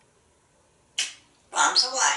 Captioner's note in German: sneezing